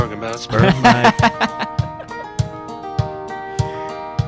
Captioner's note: laughing